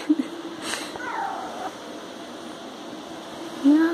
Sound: laughing; cat trills

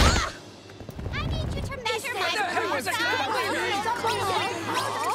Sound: all frustratedly muttering

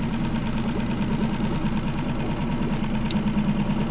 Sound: boat motor roaring

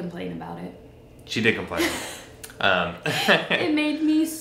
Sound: laughs

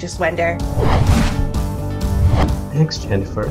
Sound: whooshing

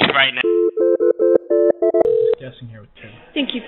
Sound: phone ringing

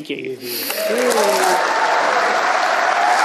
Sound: cheering and applause

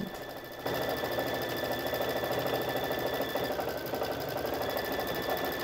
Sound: sewing machine running

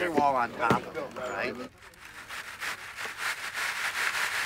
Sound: pebbles shaking

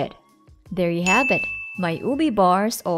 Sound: timer dings

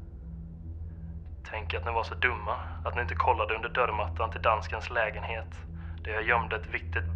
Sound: in Swedish

